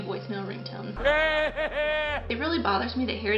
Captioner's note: maniacal laughter